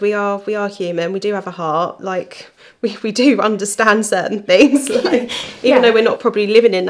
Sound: laughing

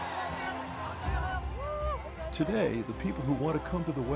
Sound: crowd cheering

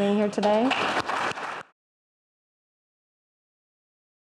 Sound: applause

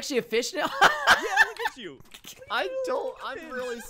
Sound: cracks up

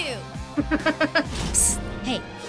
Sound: laughing

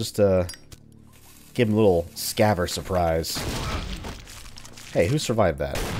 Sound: kaboom

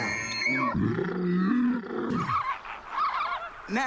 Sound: lion roaring; elk screaming; birds calling

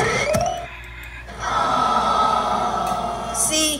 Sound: crowd groaning

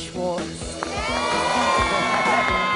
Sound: wild cheering

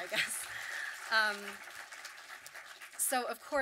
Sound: audience clapping

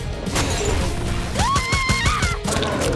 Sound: screaming

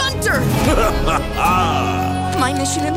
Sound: laughing evilly

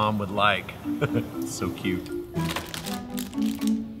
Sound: laughs; suspense music

